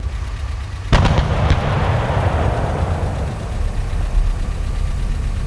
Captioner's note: explosion rumbling; explosion booming